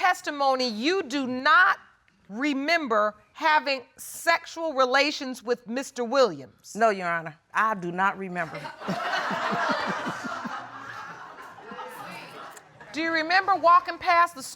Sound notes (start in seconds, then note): 8.5 audience laughing; 8.6 laughs